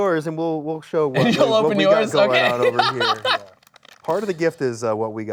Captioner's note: laughs